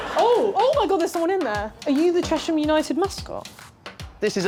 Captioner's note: none